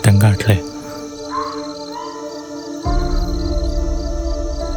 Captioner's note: jackals howling